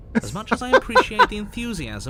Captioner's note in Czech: smích